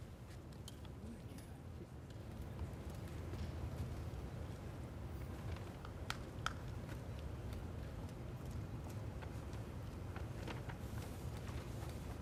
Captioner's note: applause